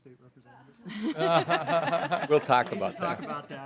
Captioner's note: people laughing